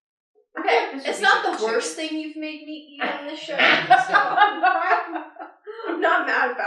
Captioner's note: laughter